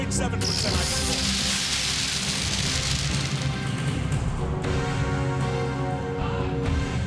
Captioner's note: fireworks exploding; exciting rock music